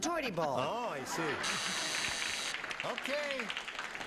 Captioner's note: buzzing